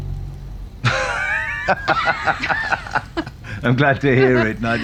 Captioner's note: laughing